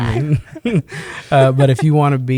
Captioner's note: chuckles